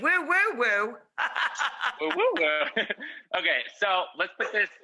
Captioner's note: laughs